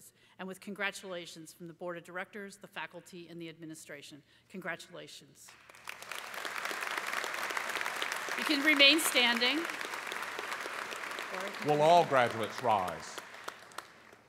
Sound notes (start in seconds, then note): 6.5 applause